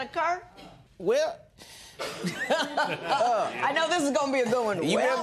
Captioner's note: laughs